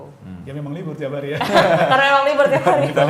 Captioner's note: laughing